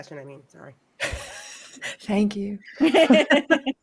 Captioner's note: laughs; group laughs